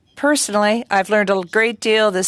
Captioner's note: speaking French